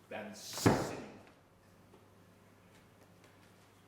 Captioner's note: pounding